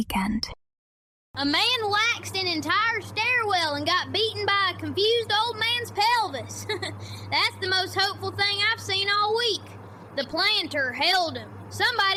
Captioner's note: laughs